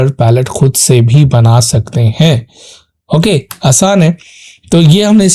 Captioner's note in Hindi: नाक से की जाने वाली आवाज़